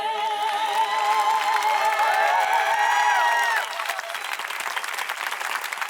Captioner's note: clapping and cheering